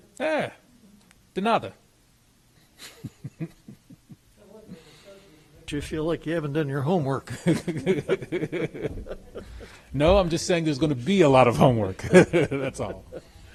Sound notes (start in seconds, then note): 2.8 laughs; 7.3 laughs